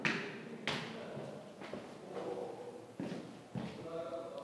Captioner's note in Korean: 조용히 울리는 발소리